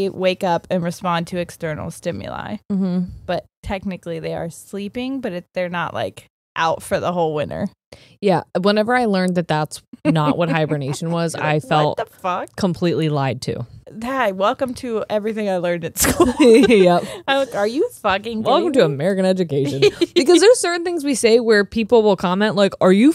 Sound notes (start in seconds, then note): 16.0 both laughing; 19.6 laughing